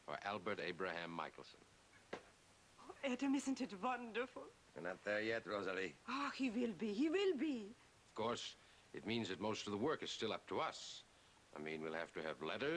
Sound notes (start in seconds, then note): none